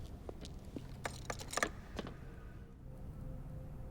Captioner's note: locks clicking